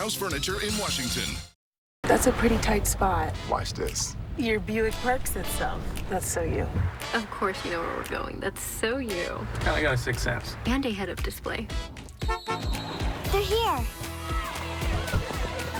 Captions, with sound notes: That's a pretty tight spot. Watch this. Your Buick parks itself. That's so you. Of course you know where we're going. That's so you. I've kinda got a sixth sense. And a head-up display. [ENCLAVE HONKS] They're here.